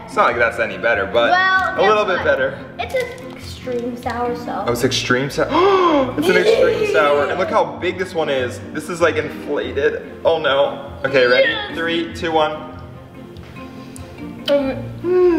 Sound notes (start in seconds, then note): 5.5 gasps; 15.0 exhales